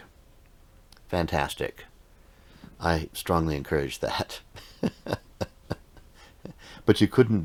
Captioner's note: laughing